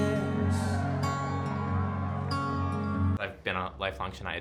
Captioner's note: crowd cheering